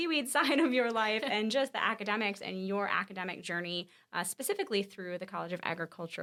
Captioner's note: laughs